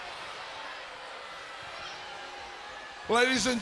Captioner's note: crowd yelling